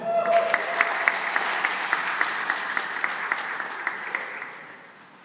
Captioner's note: cheering and applause